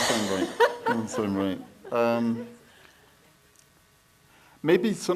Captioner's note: laughs